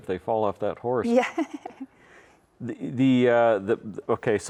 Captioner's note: laughs